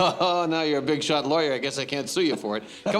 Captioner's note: laughs